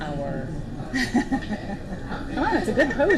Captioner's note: laughter